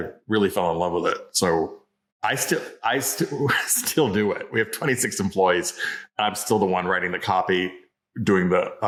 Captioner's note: laughs